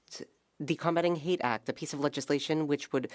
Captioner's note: speaking French